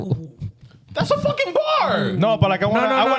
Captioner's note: laughing